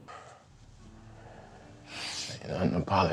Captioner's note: crying